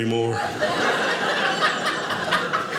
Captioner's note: audience laughing